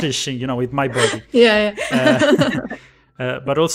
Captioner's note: laughs